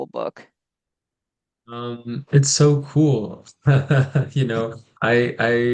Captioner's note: brief laughter